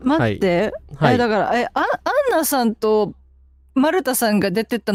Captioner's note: laughter